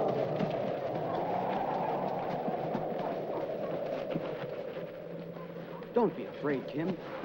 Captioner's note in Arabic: تهب الرياح